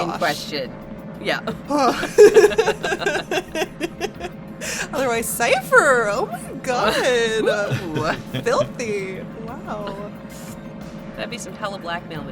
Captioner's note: laughs